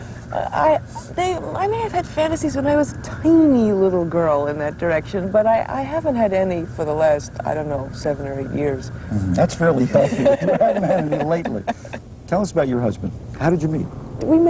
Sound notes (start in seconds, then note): 9.8 laughter